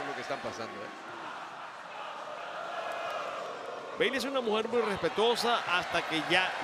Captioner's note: applause